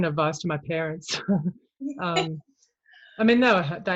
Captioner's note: both laugh